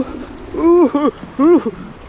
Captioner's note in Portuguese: chorando